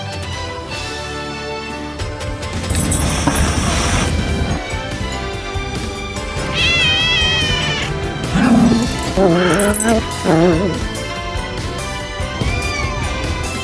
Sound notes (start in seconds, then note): 2.5 hisses; 5.9 growls; 6.3 meows; 12.1 meows